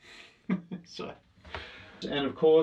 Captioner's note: laughs